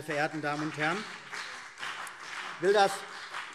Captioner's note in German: Beifall CDU und BÜNDNIS 90/DIE GRÜNEN